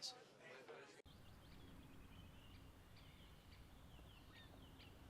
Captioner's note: birds chirping